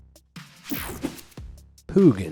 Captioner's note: screen whooshing